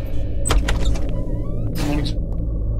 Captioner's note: Door opens